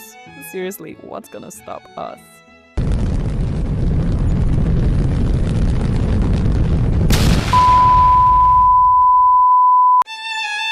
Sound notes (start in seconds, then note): 2.8 rumbling sound of asteroid crashing through the atmosphere; 7.2 boom!